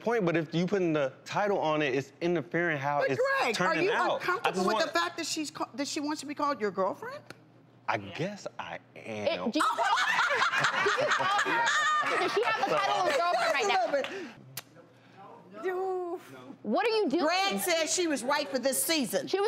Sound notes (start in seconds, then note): 9.6 laughing